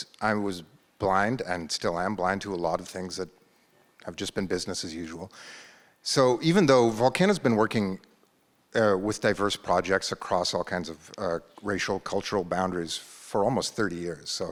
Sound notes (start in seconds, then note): none